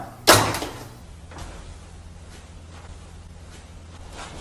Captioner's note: phone thuds